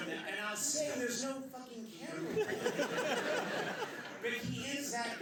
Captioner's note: laughter